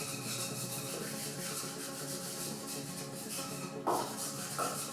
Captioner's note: sponge scrapes